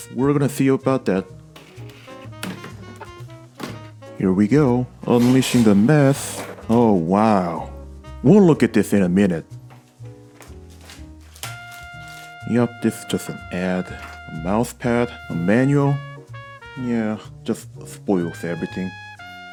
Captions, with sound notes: We're gonna see about that. Here we go, unleashing the mess. Oh wow... We'll look at this in a minute. [ripping plastic bags] Yup, this is just an ad... A mousepad, A manual, Yeah, it just spoils everything.